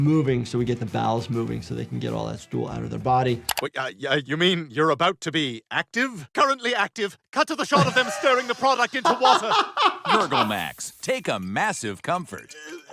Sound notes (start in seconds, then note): 9.6 laughing